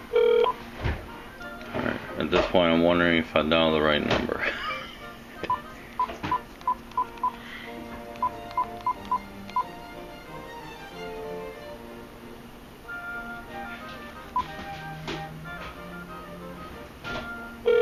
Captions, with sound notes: Alright... at this point I'm wondering if I dialed the right number. (chuckle) (redialing and ringing on speaker)